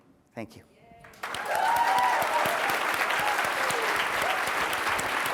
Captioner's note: cheers, applause